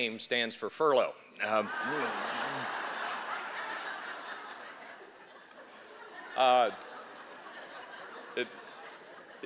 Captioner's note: laughter